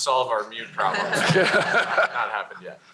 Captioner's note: laughter